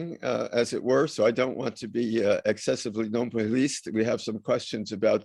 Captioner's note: french; french